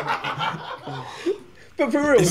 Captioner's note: laughing